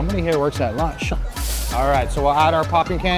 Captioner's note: popping candy rattling